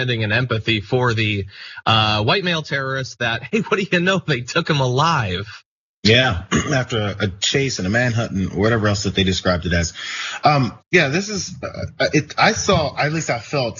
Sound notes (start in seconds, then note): 3.2 laugh; 6.2 cough